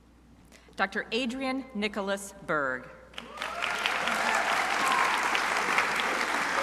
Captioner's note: crowd applauding